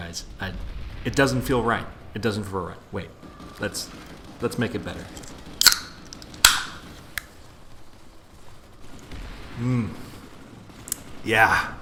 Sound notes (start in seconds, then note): 5.6 beer can opens